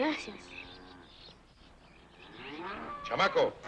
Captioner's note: bull bellows